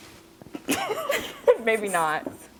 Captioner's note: laughing